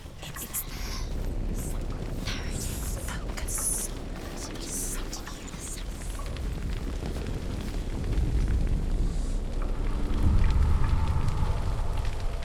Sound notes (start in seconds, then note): 0.5 whispering; 7.4 distorted sound of flames crackling